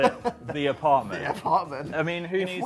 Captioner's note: laughing